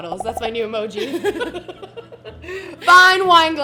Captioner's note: both laughing